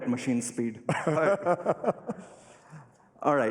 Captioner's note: laughter